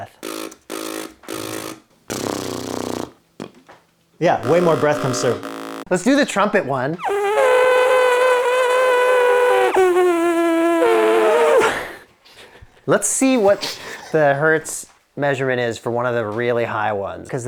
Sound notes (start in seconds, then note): 2.1 blows raspberry; 6.9 blows raspberry; 11.9 laughs